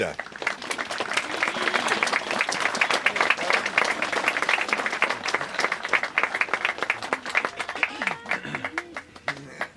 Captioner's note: applause